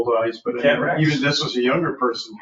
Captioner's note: people chattering